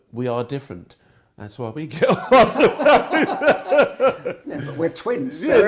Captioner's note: laughing